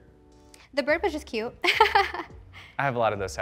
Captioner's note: laughs